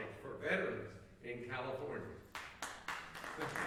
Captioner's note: applause